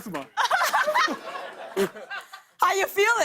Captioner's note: laughter; spits